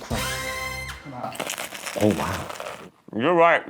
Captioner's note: croissant crunches